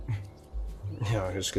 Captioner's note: chuckles